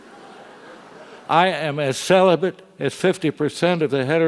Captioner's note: laugh